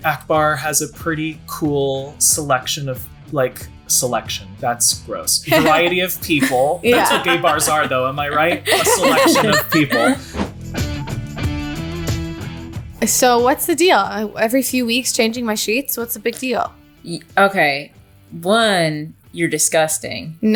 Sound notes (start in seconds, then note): 8.9 laughing